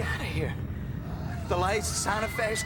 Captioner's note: distant screaming